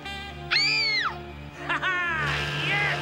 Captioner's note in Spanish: Laura grita